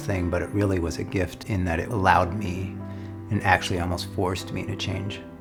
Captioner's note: none